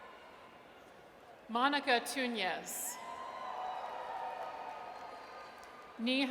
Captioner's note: audience cheers